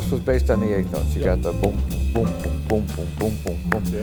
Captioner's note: hums drum beat; sweet low jazz music